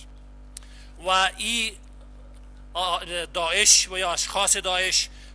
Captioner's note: translator speaking in foreign language